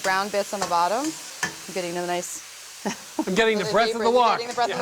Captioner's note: laughs